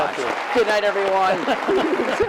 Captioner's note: laughter